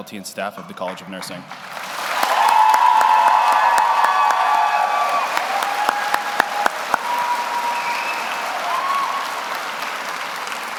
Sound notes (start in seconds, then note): 3.3 audience applauds; 3.3 audience cheers